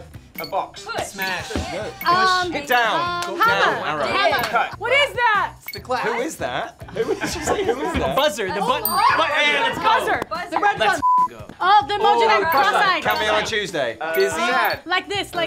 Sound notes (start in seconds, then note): 8.8 bell rings